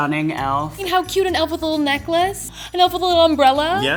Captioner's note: gasps